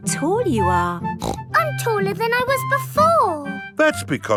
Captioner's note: snorts